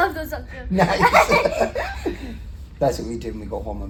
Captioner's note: laugh